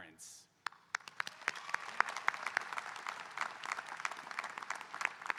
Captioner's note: audience applauding